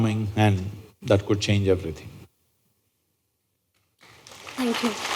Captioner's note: applause